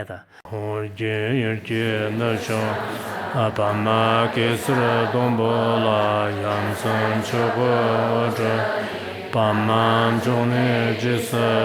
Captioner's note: Reciting Guru Rinpoche prayer and mantra in Tibetan